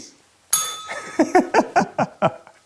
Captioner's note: bell rings; laughs